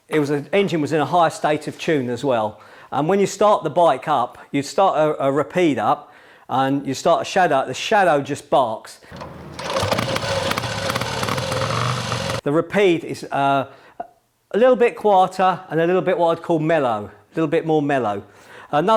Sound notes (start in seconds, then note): 9.1 motorcycle engine starting up